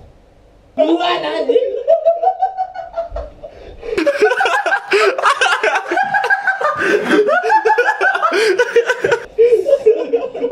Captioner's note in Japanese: 笑い声